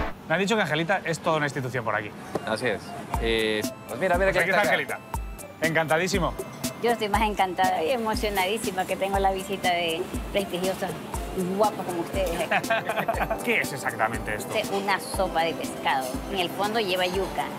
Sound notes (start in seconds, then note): 12.3 laughs